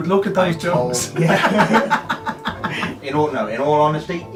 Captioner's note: laughs